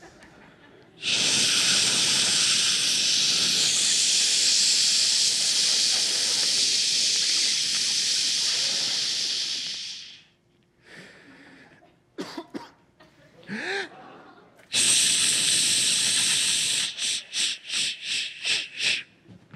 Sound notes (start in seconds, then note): 0.9 imitating urinating; 12.1 coughing; 14.7 imitating urinating